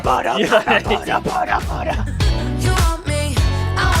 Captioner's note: laughing